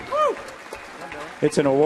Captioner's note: audience applauding